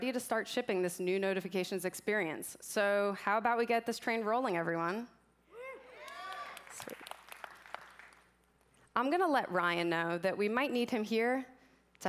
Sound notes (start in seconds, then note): 5.6 cheering